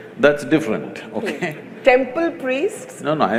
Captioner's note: laughs